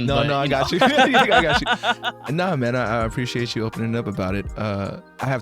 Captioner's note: both laughing